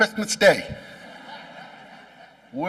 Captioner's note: laughing